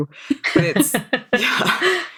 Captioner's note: laughing